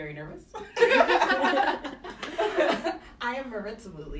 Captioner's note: laughter